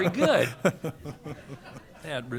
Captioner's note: laughter